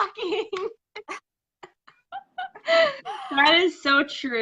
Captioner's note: laughing